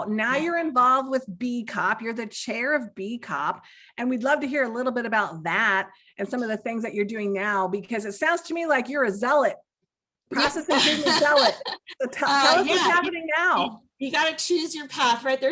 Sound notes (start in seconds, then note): 10.3 laughs